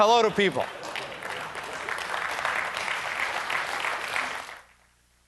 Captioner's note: applause